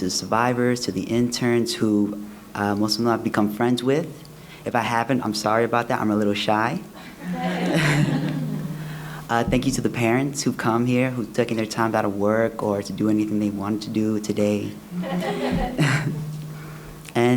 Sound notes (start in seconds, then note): 7.0 laughs; 15.0 laughter